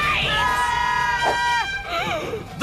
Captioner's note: yelling